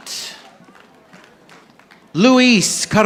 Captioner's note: audience applauding